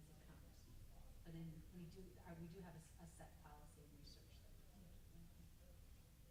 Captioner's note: stammers